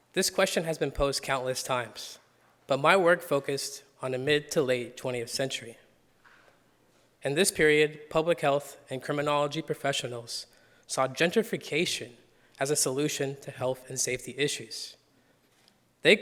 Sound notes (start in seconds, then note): none